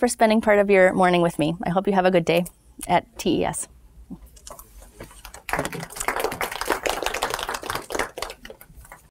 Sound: applause

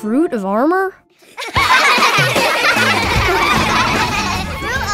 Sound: laughing

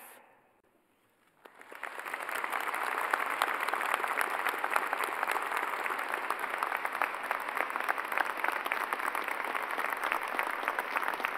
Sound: cheers and applause

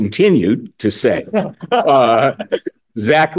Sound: laughing

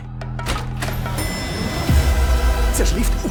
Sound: elevator bell dings

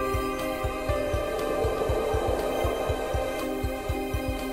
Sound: wind blows

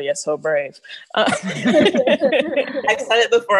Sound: laughs

